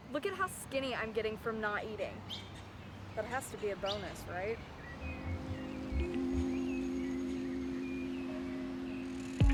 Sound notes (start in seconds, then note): 5.6 birds chirp; 6.7 somber music